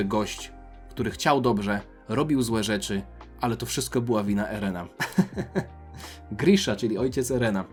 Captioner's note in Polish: śmiech